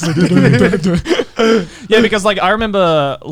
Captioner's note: chuckles